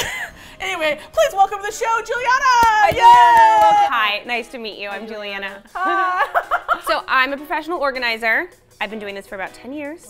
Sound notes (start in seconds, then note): 0.0 both laugh; 5.7 laughs giddily